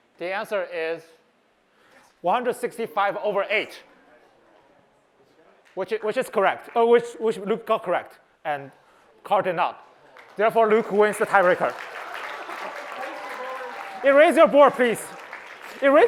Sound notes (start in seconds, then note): 12.3 applause